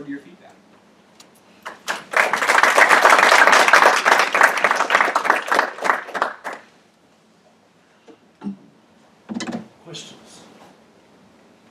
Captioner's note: applause